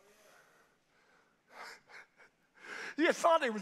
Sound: pastor chuckles

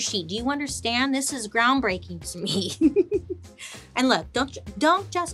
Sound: laughs

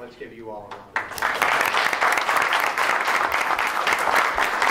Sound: applause

